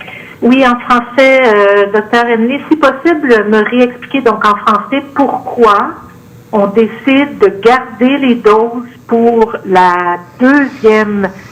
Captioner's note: speaking French